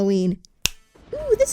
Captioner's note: finger snapping